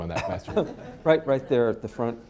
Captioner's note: laughter